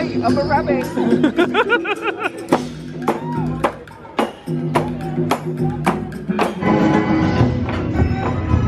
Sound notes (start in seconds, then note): 0.9 laughing; 1.6 upbeat rhythmic music